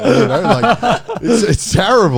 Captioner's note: laughing